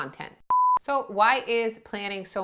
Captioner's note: beep